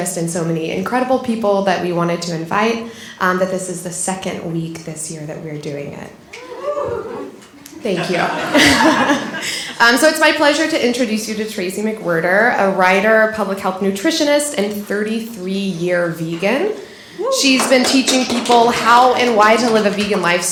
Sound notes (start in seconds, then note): 6.3 audience cheering; 7.8 laughter